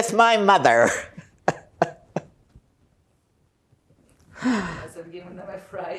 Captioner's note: laughing